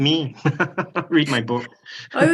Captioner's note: laughs